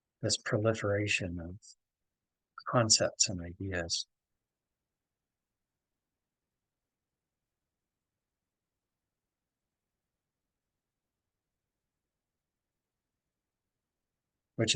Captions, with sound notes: This proliferation of concepts and ideas. [pause]